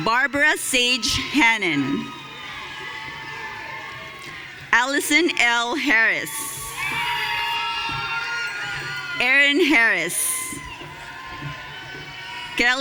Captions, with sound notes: Barbara Sage Hannon. (audience cheering) Allison L. Harris. (audience cheering) Erin Harris. (audience cheering)